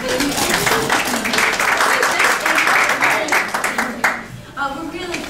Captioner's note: applause